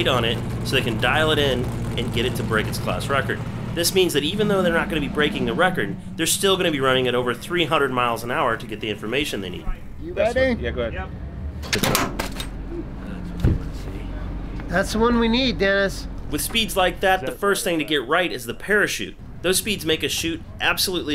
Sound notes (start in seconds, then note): 11.7 parachute clanking